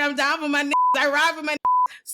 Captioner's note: beep